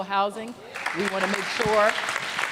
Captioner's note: applause